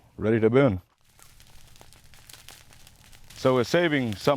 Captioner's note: fire crackling